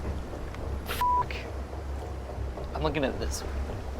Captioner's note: beep